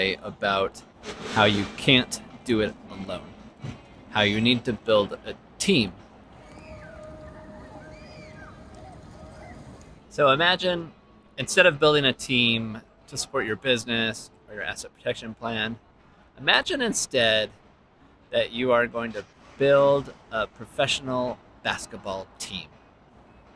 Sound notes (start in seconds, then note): 6.8 kids shouting